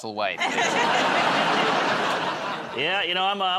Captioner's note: laughter